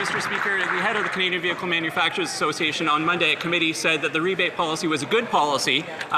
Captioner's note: some Applause